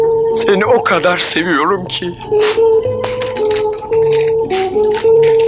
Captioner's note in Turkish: Burun çekme